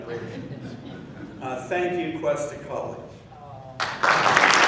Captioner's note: laughing; applause